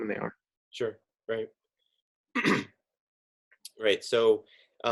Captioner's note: coughs